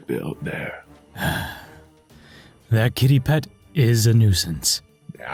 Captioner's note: groan